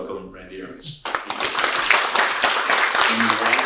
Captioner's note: audience applauds